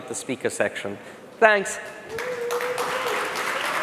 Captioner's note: applause